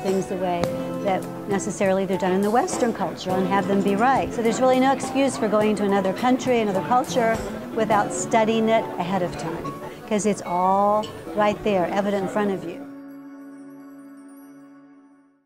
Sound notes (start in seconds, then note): 12.5 lively chiming